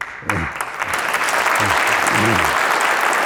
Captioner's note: applause